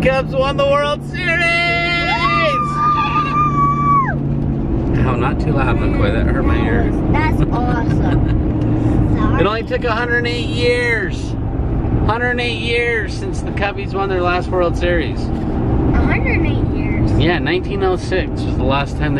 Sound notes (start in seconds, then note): 1.5 cheering